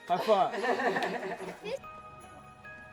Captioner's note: laughter